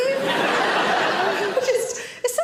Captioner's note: audience laughs